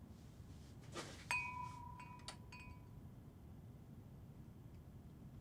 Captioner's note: glasses clank